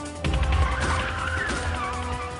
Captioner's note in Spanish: Disparos; Chillido de neumáticos